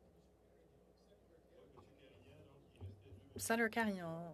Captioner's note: speaking French